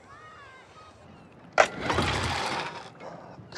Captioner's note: motor stalling